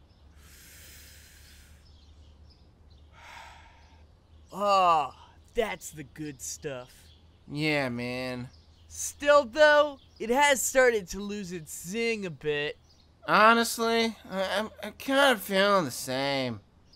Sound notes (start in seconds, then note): 0.1 breathe in; 0.3 breathe out; 4.5 moan of satisfaction